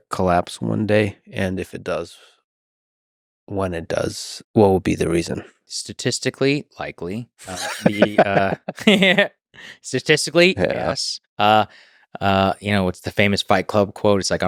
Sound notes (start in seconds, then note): 7.4 Lex laughing; 7.4 laughs